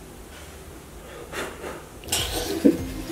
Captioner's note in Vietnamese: Phù phù